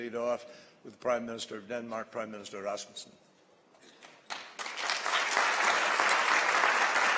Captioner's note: applause